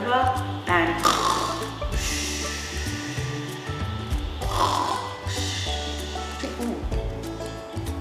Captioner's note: snoring